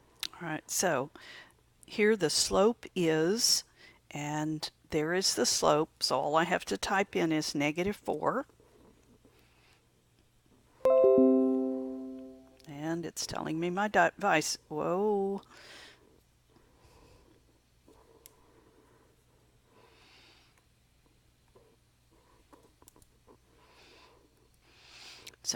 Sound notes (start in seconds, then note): 0.0 long pause; 10.8 chime sound; 16.1 long pause